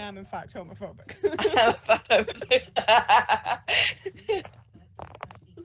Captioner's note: laughing